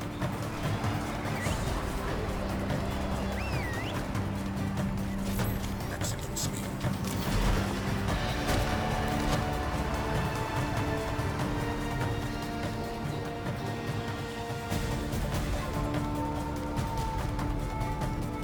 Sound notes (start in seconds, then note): 2.7 whistling